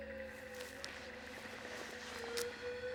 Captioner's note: howling